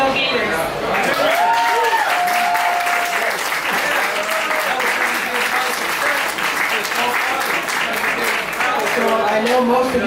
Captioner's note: applause